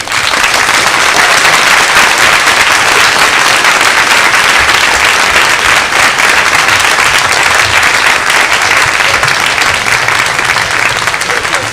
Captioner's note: applause